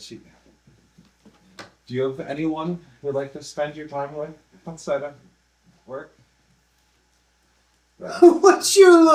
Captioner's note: awkward pause